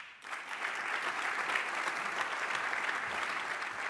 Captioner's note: applause